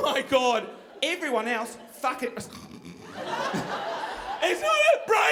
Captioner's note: snoring